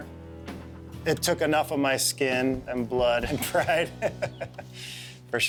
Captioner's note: chuckling